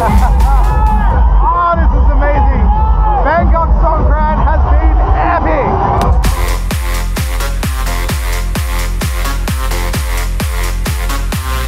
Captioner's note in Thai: ปรบมือ